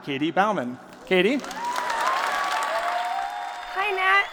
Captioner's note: applause